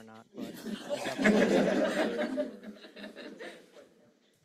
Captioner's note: laughs